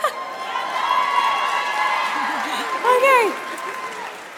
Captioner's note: audience applauds